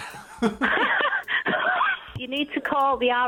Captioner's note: mum laughing